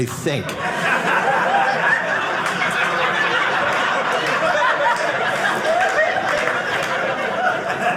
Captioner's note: audience laughing